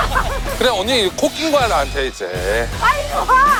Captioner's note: swoosh